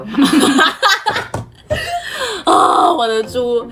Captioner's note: hahahahahaha